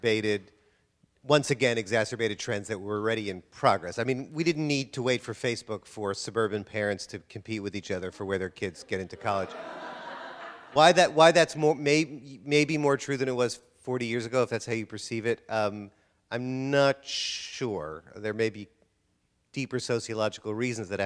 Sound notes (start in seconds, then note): 8.8 audience laughter